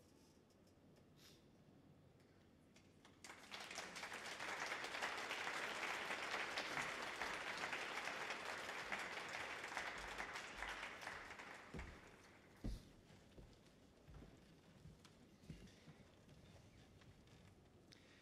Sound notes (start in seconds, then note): 3.2 audience applauds